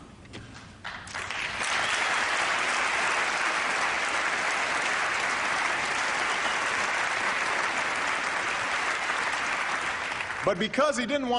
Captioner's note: applause